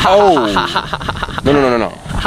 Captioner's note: laughing